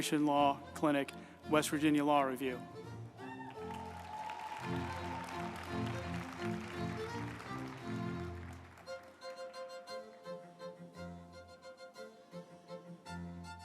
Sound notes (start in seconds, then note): 3.2 group applauding; 3.4 uplifting music